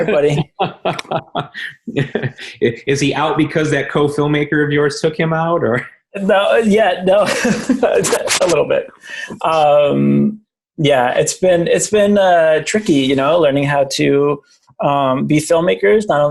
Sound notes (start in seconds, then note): 0.0 laughing; 7.1 laughing